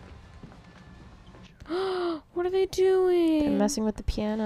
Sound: gasp

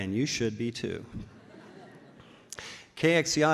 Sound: laughs

